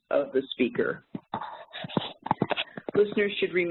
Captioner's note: rustling